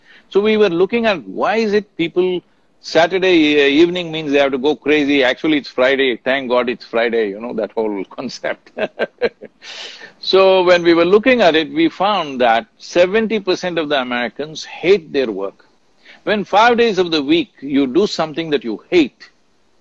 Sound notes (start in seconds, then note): 8.6 laughs